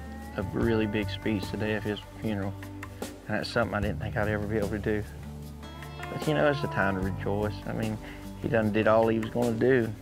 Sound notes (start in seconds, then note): none